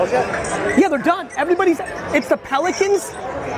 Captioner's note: none